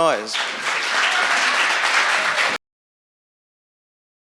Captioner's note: applause